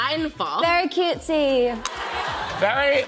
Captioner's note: attendees laughing